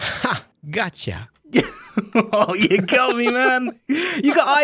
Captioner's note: laughs